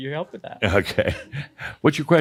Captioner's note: chuckles